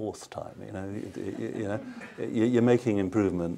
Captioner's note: laughter